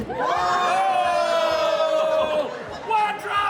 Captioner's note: audience claps and cheers